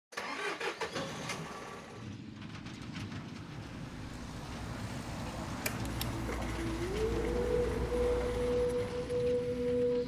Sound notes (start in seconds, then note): 0.0 truck engine starts; 5.5 car buttons click; 7.7 eerie music playing